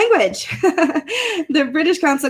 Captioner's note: laughs